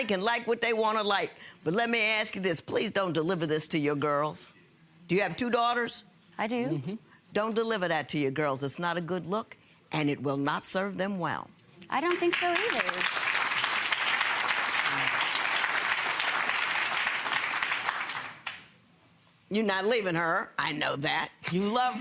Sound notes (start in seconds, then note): 12.1 clapping